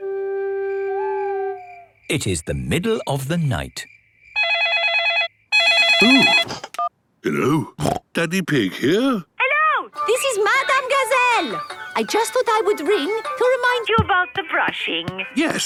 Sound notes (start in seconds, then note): 0.9 owl hooting; 5.5 phone ringing; 7.7 snorting